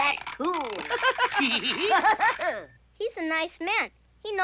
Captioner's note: laughing